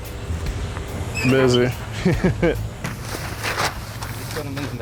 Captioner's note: chuckles